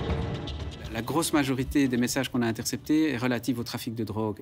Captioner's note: French spoken audio